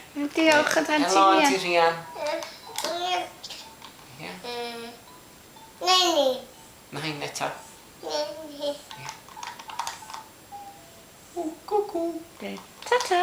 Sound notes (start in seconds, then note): 2.7 toddler babble